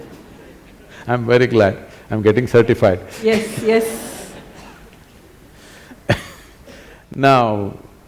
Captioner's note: laughter; laughter